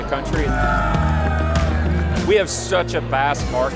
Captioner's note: people cheering